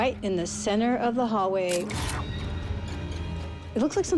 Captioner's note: camera shutter clicking